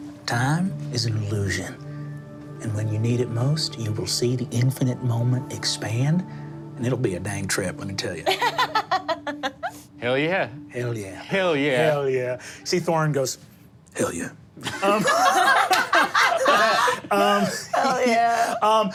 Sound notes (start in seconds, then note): 8.2 laughing; 14.6 group laughing